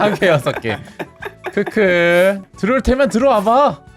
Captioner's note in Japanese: げらげら げらげら